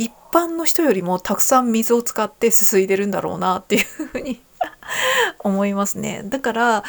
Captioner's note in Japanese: 笑い